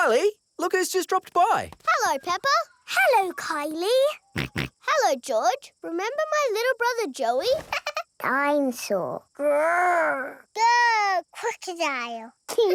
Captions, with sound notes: Kylie! Look who's just dropped by! Hello, Peppa! -Hello, Kylie! -(SNORTS) Hello, George! Remember my little brother Joey? -(CHUCKLES) -Dine-saw! Grr! Grr! Croc-dile!